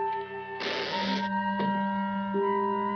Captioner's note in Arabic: النافذة تغلق وتصدر صريرًا